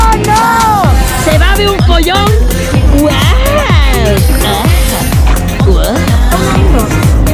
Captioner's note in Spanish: sonidos absurdos